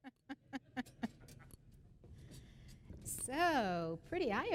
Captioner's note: laughter